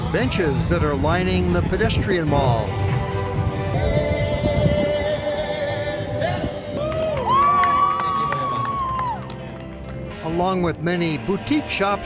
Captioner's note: cheers